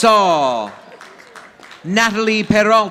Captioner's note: audience applauding